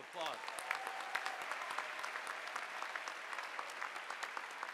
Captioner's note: audience applauding